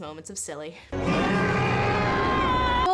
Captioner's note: overlapping screaming